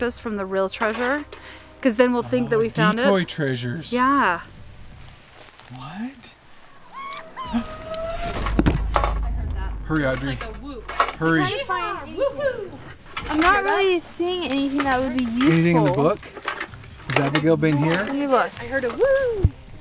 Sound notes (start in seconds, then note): 6.7 whooping